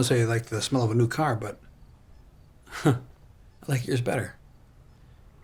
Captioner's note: chuckles